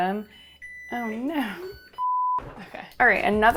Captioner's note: refrigerator beeps